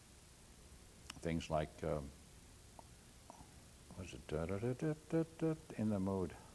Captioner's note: humms